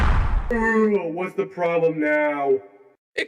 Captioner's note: tired